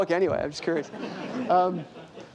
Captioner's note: laughter